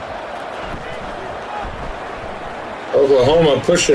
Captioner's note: crowd Noises